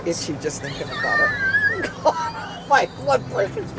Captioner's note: laughter